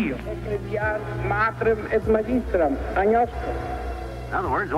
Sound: speaking in another language

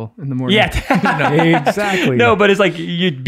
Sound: laughs

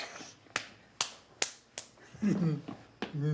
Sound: both make squishing sound; slapping hands; Josiah laughs

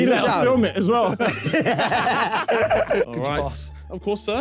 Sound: laughing

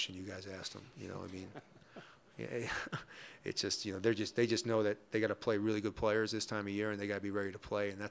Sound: laughter

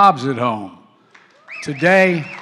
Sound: applause

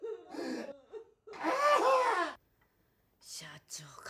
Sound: crying

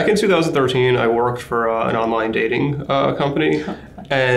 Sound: chuckles

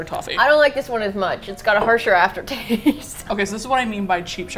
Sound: laughs

